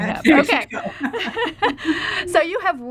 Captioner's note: both laughing